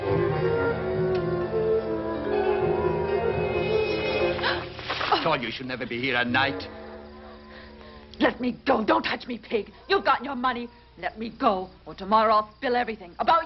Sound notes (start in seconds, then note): 4.7 Mary gasps